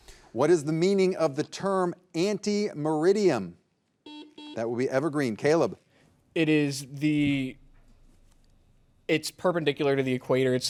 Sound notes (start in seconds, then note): 4.0 buzzer buzzing